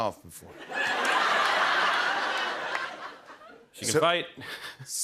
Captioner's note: laughter